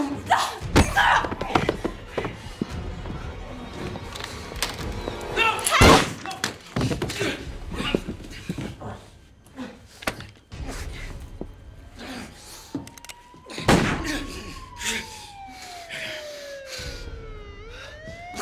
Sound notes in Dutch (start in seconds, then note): 6.3 kreunend en kreunend; 11.4 loeiende sirenes van de politie; 13.7 geweerschot schalt